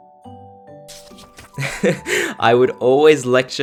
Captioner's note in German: Kichern